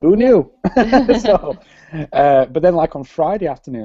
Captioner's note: both Laugh